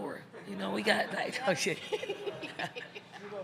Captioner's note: crowd laughing; chuckles; Dawn laughs; journalist laughs